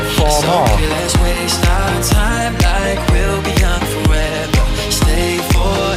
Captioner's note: breathing heavily